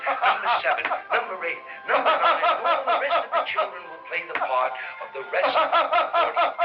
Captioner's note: laughter